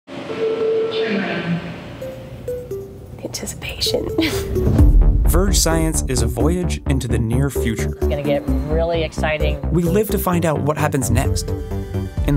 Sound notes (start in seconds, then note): 0.1 beeping, machinery noise